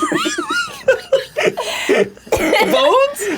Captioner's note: laughs; laughs and coughs